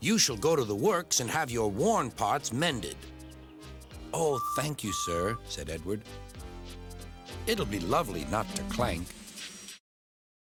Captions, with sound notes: YOU SHALL GO TO THE WORKS AND HAVE YOUR WORN PARTS MENDED." - ( toots ) - "OH, THANK YOU, SIR," SAID EDWARD, "IT'LL BE LOVELY NOT TO CLANK."